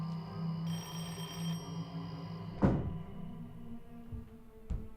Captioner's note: dramatic music; door bell ringing